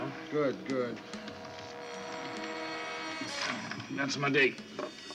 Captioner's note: telephone rings